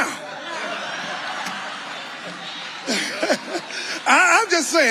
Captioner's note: audience laughing